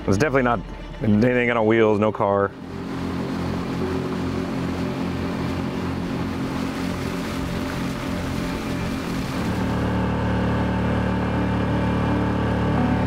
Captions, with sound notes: It's definitely not anything on wheels, no car. (boat engine humming) (light music)